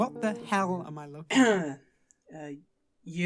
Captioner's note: clearing throat